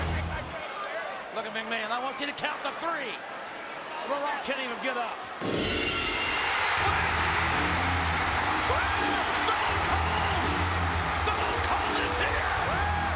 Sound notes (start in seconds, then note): 5.6 audience cheering; 5.6 glass shattering